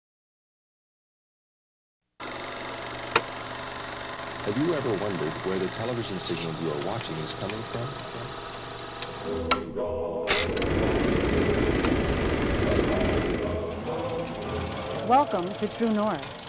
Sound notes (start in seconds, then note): 3.0 projector clicking; 10.2 projector clicking; 16.3 upbeat music